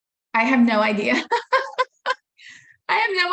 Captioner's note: laughing